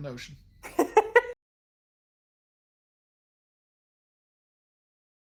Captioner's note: laughing